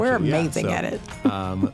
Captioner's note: chuckles